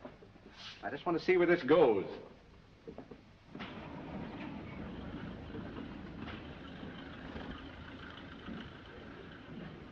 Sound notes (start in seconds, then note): 3.8 car engine sputtering